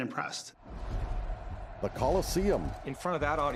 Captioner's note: crowd cheering